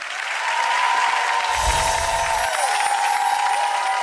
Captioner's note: audience cheering